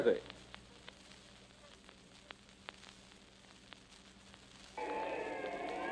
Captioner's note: crowd noises . . . police sirens